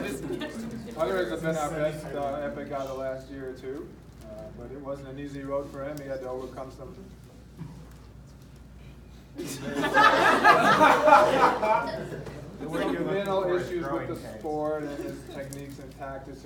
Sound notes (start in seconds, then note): 9.4 laughs